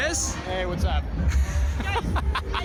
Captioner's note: laughing